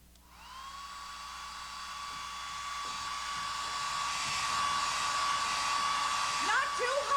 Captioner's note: hairdryer blowing